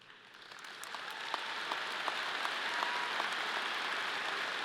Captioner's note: audience applauding